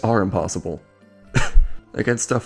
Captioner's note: cough